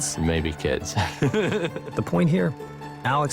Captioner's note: laughs